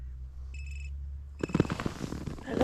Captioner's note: PLB ringing